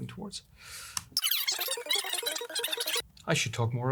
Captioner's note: fast forward sounds